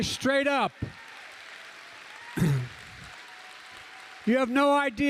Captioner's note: applause